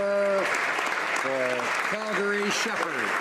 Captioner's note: applause